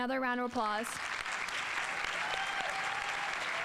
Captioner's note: audience applauding; audience exclaiming